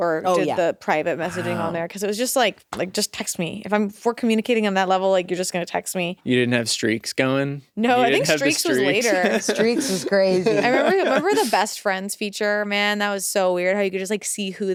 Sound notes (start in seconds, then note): 8.0 laughs